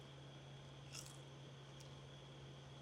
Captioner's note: Crunch